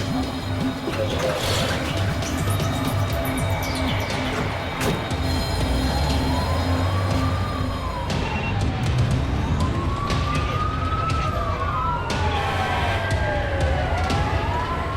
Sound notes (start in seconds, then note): 0.2 dramatic music continues; 9.5 siren wailing